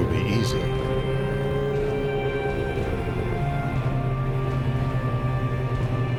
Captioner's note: engine buzzing, orchestral music